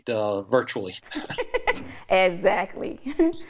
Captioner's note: both laugh